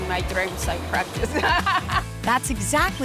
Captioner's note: laughter